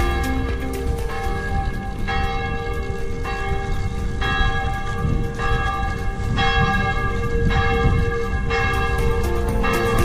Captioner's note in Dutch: kerkklokken